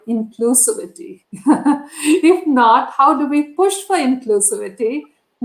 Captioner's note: laughter